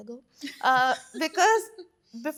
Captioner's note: laughs